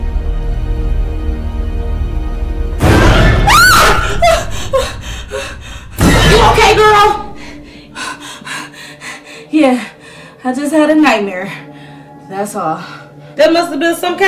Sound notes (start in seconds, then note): 2.9 dramatic music; 3.4 LeToya screams; 7.9 pants